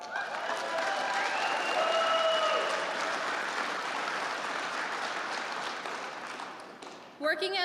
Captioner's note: applause